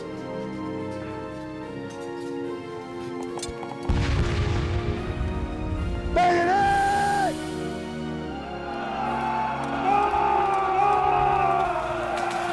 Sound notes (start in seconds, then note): 3.9 cannon fire; 9.4 shouting